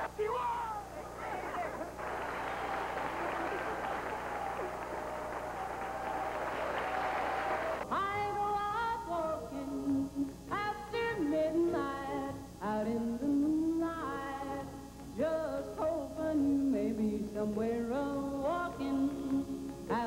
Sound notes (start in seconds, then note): 3.5 applause